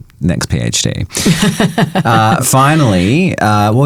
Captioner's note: chuckling